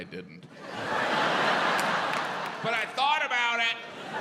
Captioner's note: audience laughs